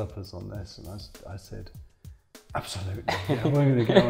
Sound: laughs

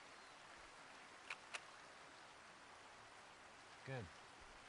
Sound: shutter clicks

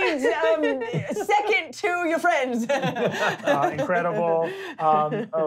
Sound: laughing

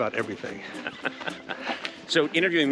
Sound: Conan laughing

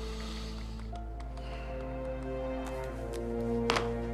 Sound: sighs, typing

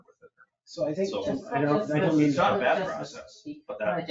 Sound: people chatter

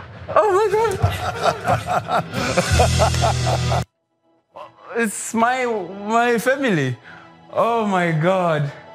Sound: laugh

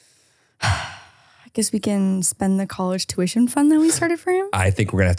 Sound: sighs

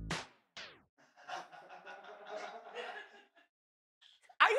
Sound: laughter

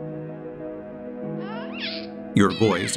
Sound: baby cooing

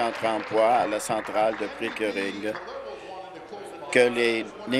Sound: applause

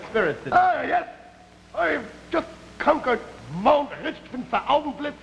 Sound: German accent

